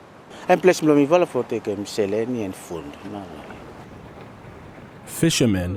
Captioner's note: speaks in foreign language